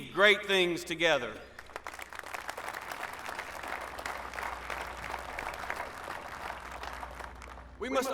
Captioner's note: applause